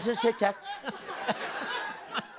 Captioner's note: laughter